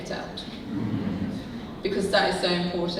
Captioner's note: audience laughing